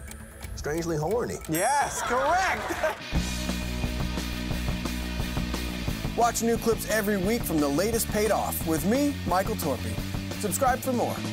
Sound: laughter and applause

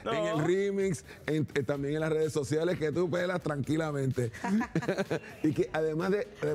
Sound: risas

